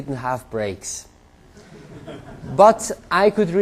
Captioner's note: laughter